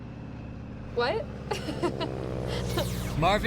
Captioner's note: laughs